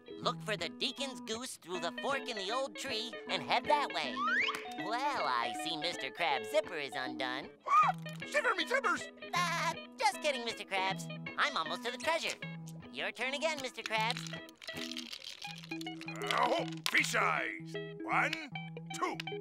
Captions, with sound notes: Look for the Deacon's Goose through the fork in the old tree and head that way. Well, I see Mr. Krabs' zipper is undone. [gasps] Shiver me timbers! [laughs] Just kidding, Mr. Krabs. I'm almost to the treasure. Your turn again, Mr. Krabs. Ooh, fish eyes. One, two.